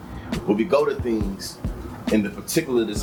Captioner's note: birds Chirping